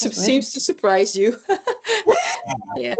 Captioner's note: laughs